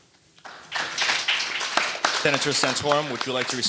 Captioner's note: audience applauding